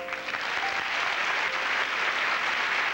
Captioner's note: applause